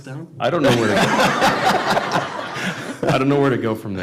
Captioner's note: laughter